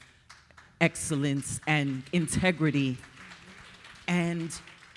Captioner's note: audience applauding